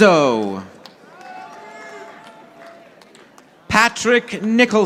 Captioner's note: audience applauding